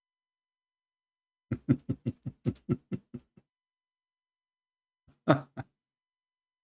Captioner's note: Ketawa